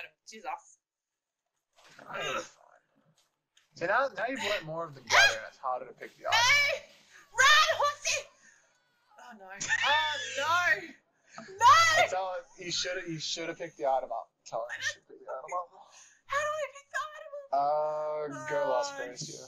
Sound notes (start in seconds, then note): 2.0 grunts; 16.1 speaks in tongues